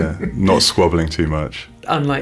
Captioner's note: chuckles